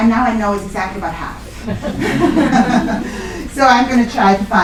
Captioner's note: laughter